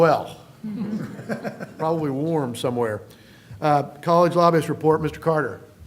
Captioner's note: laughter